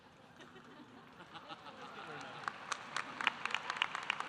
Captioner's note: audience laughing